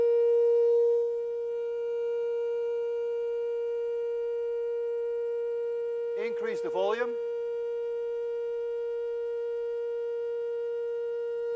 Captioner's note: high tone continues, becomes louder